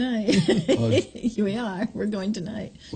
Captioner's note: laughs